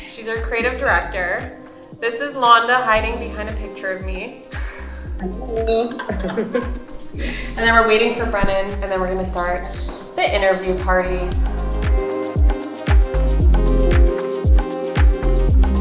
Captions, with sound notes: She's our creative director. This is Londa, hiding behind a picture of me. - Hello. (laughter) - And then we're waiting for Brennen, and then we're going to start the interview party. (upbeat music)